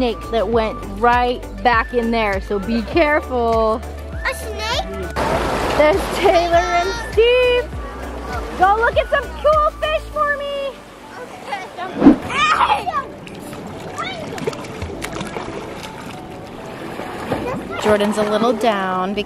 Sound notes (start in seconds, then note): 5.6 water splashing; 12.3 children chattering; 12.3 water splashing